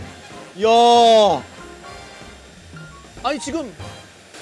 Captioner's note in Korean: 감탄